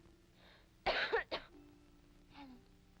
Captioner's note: girl coughs